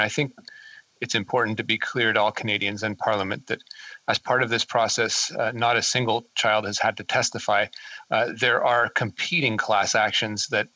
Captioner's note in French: voix de l'interprète